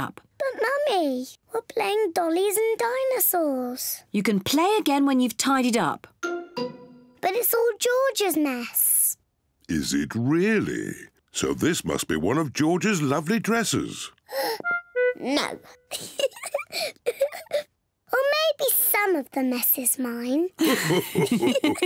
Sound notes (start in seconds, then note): 0.2 in normal voice; 15.9 giggles; 16.6 gasps; 20.6 all laugh